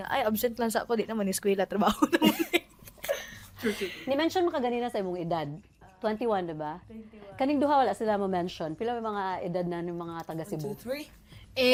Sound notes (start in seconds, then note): 1.9 laughter